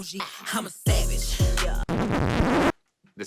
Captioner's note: record scratching